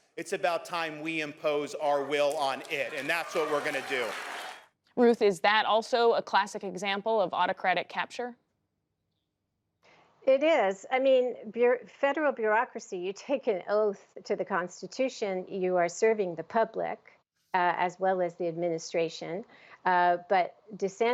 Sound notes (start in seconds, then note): 4.1 cheering and applause